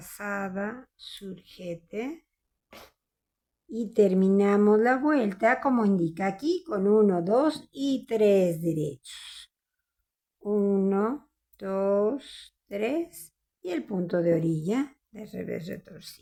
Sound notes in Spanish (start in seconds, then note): 2.7 resoplido